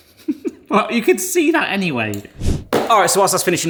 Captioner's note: laughs